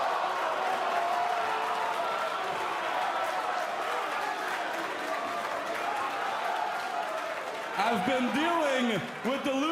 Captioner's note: crowd response